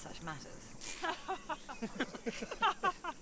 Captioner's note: bandits laugh